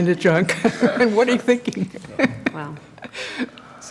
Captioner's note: laughter